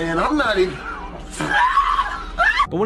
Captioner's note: yell